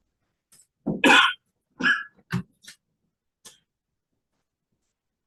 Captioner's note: coughs